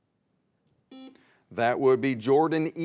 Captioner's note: buzzer beeps